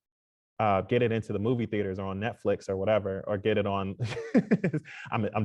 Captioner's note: laughs